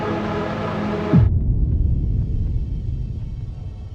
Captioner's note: boom sound